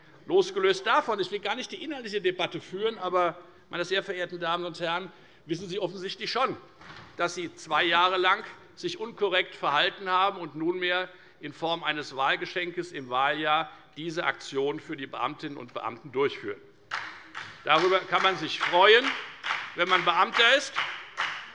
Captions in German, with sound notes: Ich will gar keine inhaltliche Debatte führen, aber losgelöst davon wissen Sie offensichtlich schon, dass Sie sich zwei Jahre lang unkorrekt verhalten haben. Nunmehr wollen Sie eine Aktion für die Beamtinnen und Beamten in der Form eines Wahlgeschenks durchführen. [Beifall bei der FDP] Darüber kann man sich freuen, wenn man Beamter ist.